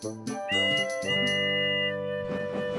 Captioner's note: whistles